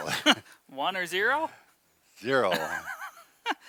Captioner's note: laughs; both laughs